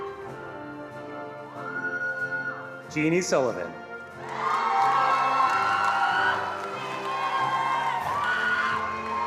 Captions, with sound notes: Jeannie Sullivan. (attendees cheering and applauding)